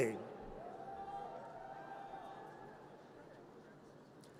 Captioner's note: audience cheers